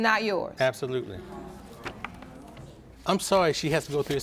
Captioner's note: audience gasps